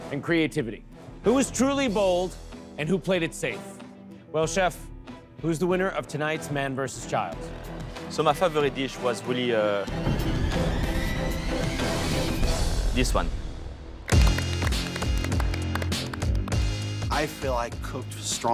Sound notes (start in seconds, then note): 9.6 suspenseful music plays; 14.0 applauding